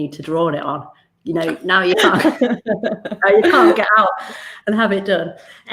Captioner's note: laughs